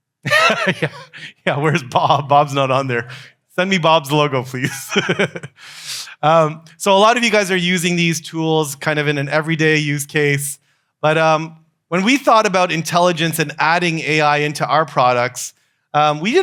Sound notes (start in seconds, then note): 0.2 laughs; 4.6 laughs